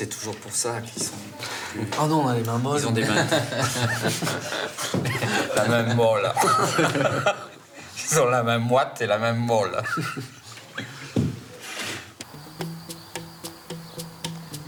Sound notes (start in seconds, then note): 3.0 laughter; 13.0 laughs